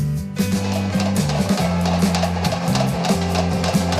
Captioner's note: hammering